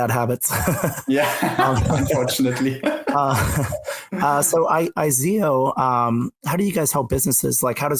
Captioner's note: laughs